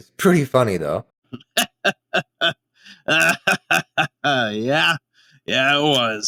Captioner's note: laughing